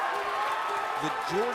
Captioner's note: cheers & applause